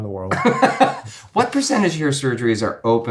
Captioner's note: laughs